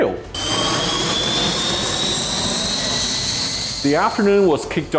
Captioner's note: plane engine roaring